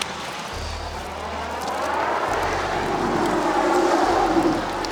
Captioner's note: traffic humming